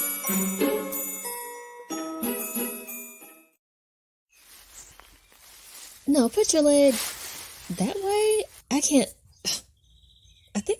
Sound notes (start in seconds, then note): 1.1 bright string music ends; 4.4 birds chirping; 7.9 bushes rustling; 9.9 grunting